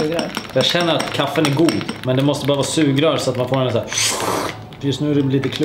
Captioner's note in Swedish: slurp ljud